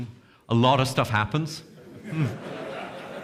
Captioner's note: audience chuckles